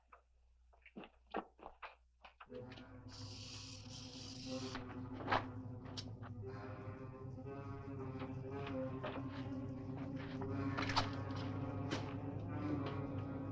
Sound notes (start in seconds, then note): 3.0 snake rattling; 3.0 tense music